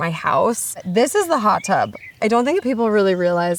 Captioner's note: birds chirping